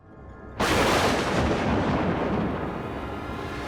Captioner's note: thunder Clap